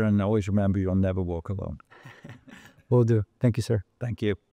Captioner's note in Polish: śmiech